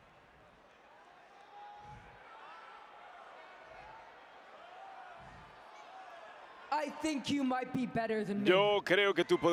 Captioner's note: applause